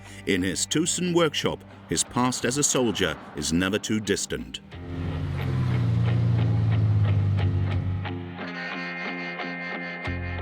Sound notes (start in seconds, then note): 4.8 engine rumbling; 4.8 soft music